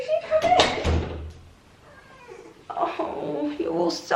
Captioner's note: cat meowing